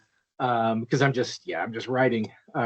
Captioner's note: laughing